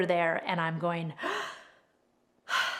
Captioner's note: breathes